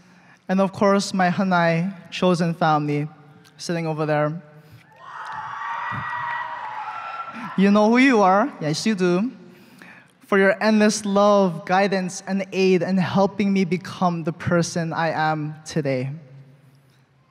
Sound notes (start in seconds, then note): 4.9 cheering